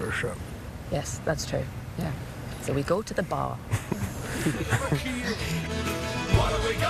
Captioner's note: laughter